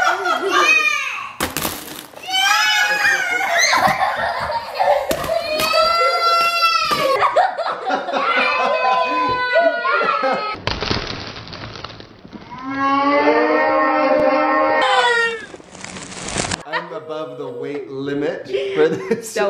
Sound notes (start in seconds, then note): 1.4 crunching; 2.2 shouts and squeals; 5.0 crunching; 5.2 wailing; 7.1 laughter; 7.4 wailing; 10.6 slow crunching; 10.8 slow yells; 15.1 video rewinding